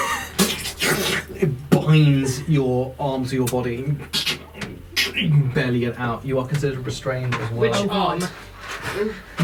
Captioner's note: squelching noise